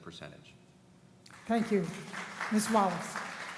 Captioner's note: applause